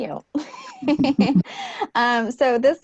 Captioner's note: laughs